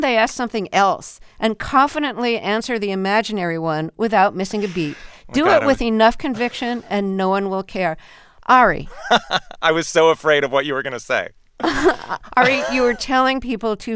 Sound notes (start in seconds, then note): 8.8 laughter